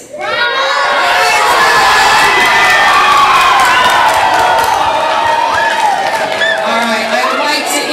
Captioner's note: audience applause